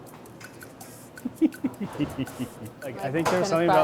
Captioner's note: laughing